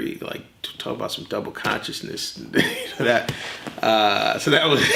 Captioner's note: laughs